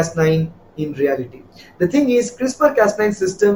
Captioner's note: Vietnamese